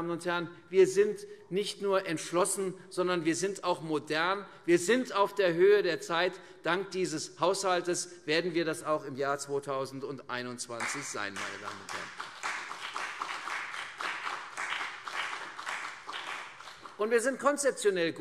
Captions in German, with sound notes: Wir sind nicht nur entschlossen, sondern wir sind auch modern. Wir sind auf der Höhe der Zeit. Dank dieses Haushalts werden wir das auch im Jahr 2021 sein. [Beifall CDU und BÜNDNIS 90/DIE GRÜNEN] Wir sind konzeptionell gut.